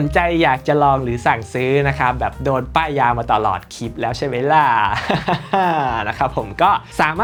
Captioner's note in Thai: เสียงหัวเราะ